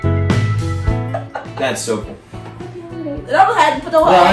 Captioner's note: laughs